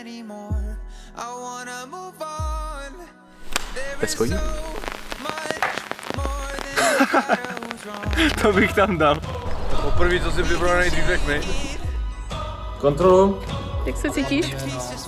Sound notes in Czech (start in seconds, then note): 6.7 Smích